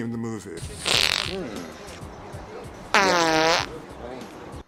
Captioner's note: a good ol' family fart-off